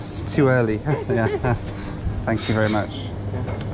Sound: chuckles

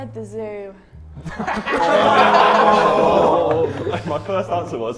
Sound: Sidemen laugh

